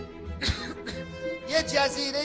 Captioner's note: c*** smokers cough